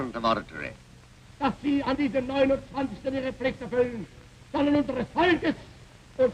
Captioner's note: Hitler speaking German